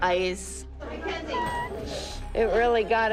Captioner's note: crying